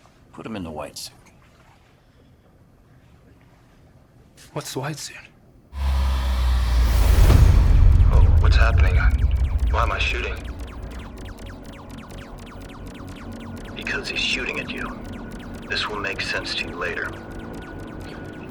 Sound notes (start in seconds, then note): 5.7 suspenseful music; 7.3 bullets whooshing; 7.3 ominous music